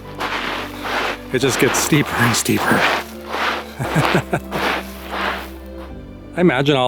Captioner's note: laughter